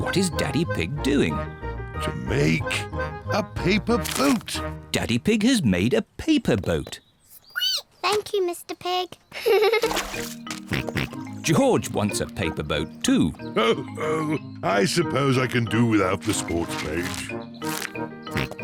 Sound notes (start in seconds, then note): 7.6 squeaks; 9.3 giggles; 9.5 snorts; 13.6 chuckles